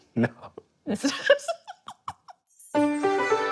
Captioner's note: laughing